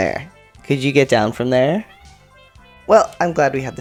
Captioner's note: meow